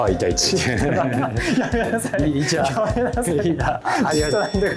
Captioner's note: laughs